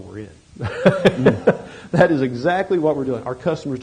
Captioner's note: laughs